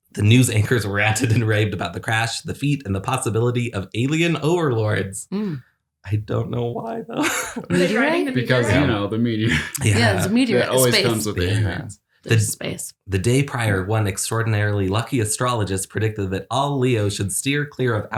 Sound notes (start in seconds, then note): 6.1 chuckles